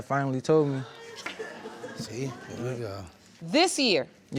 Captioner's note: audience exclaiming